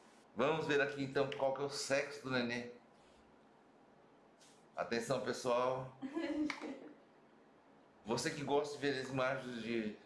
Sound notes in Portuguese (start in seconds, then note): 6.4 risos